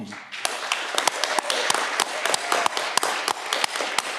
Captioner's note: audience clapping